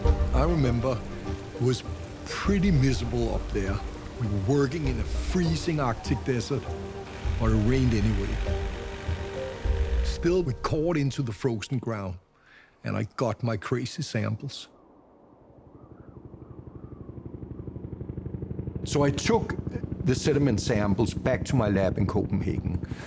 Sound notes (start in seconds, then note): 14.8 helicopter blades whirring